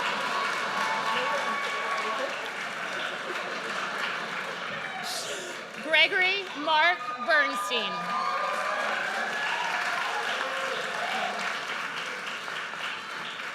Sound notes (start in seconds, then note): 6.4 audience cheers